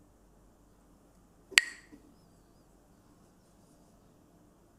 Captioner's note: Mooji clacks the sticks